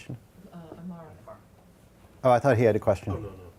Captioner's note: woman murmurs